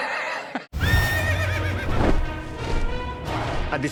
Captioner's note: laughs; horse whinnying